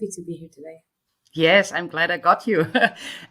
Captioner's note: laughs